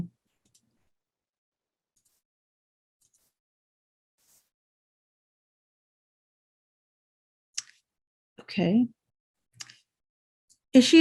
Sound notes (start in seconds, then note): 8.0 pause